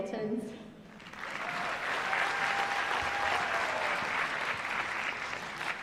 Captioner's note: applause